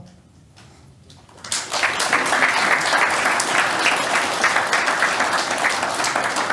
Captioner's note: audience applauding